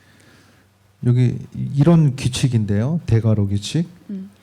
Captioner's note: speaking korean